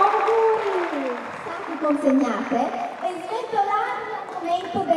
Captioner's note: speaks in Italian